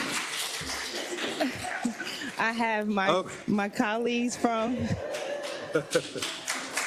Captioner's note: laugh; applause; laugh; applause